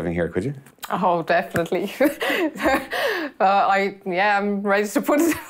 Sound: chuckles

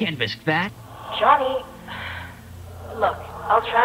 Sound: sigh

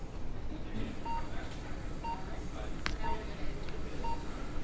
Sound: beeps of eeg

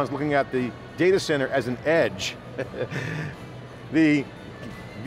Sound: chuckles

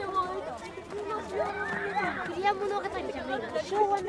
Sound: children yell and play at recess

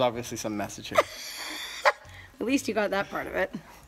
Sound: laughter

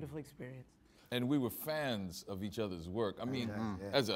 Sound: all agreeing

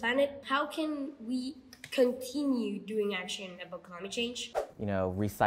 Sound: whoosh

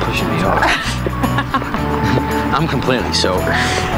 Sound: laughing

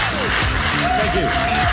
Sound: audience cheers

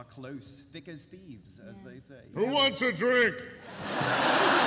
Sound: yells; laughter

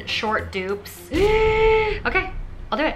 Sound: gasps

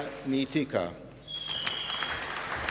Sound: applause

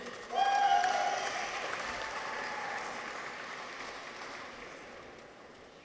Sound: audience applauds; people cheer

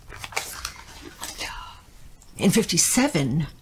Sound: paper rustling

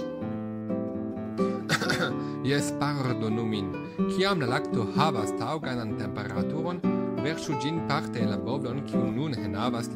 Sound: cough

